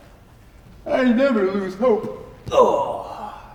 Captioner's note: yawning